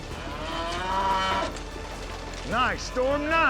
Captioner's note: mooing